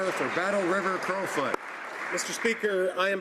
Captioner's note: some Applause